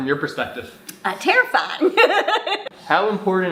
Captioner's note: laughs